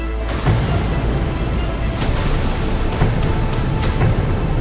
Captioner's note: punches smacking